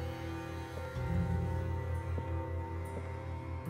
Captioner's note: footsteps